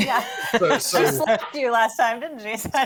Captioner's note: all laughing